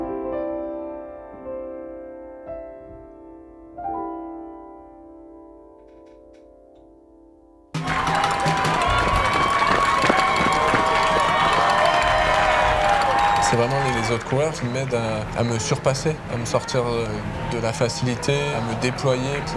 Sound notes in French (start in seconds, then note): 11.9 acclamation; 11.9 applaudissements